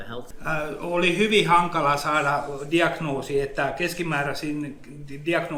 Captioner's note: speaks in Finnish language